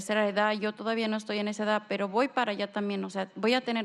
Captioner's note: speaking spanish